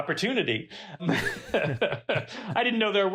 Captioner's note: chuckles